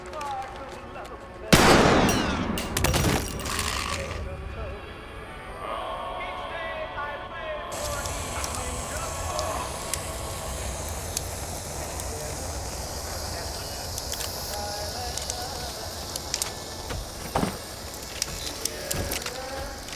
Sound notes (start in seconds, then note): 1.5 gunshot blasts; 8.6 flame hissing; 15.4 robot whirring